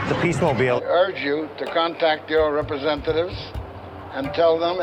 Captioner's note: echoing